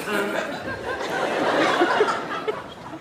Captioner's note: laughs